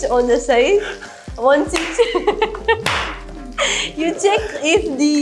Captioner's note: says something in English with the French Accent